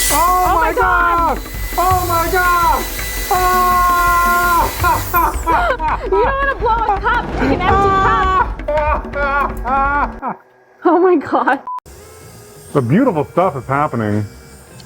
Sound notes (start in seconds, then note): 0.0 heat gun whirring; 4.7 laughs; 8.6 laughing